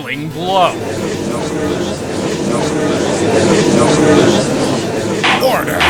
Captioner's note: gallery chattering